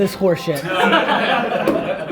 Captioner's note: group laughter